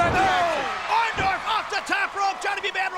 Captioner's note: crowd cheering